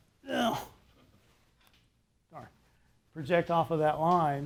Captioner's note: grunts